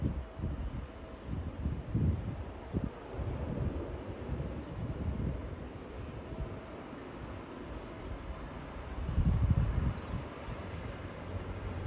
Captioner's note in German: Wagen-Geräusche